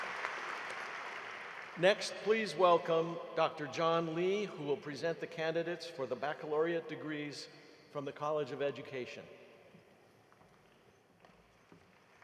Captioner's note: applause